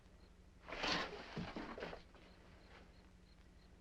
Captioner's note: insects chirping